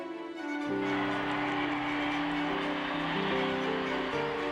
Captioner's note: crowd cheering